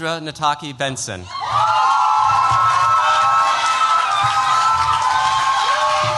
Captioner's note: cheers, applause